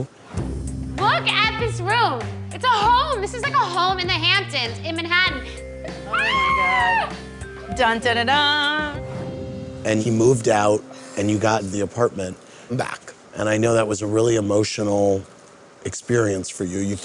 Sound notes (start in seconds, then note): 6.1 screams